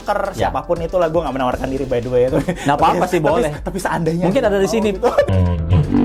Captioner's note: laughs